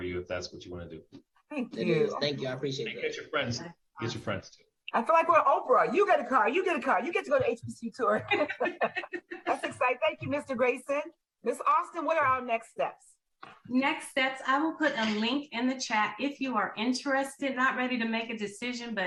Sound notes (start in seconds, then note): 7.5 laughing